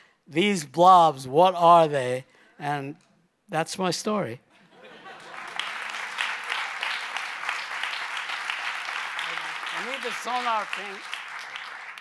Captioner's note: applause